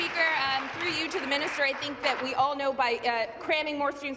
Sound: applause

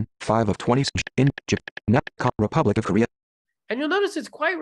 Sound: stammers

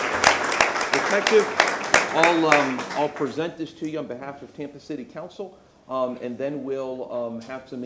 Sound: applause

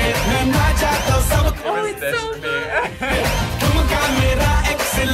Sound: upbeat music; laughs; upbeat music

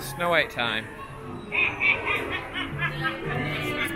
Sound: evil queen laughter

